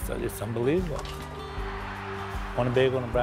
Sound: cheering; ball swishes in basket

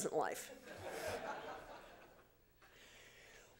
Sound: laughter

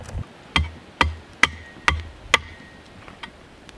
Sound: hammering

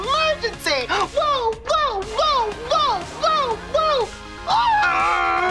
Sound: imitates a siren

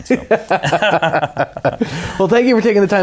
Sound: both laughing

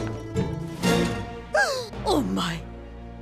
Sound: gasping

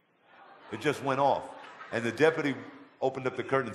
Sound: audience laughter

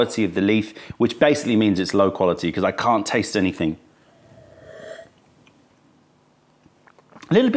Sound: sips tea

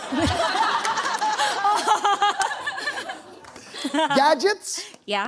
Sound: laughter

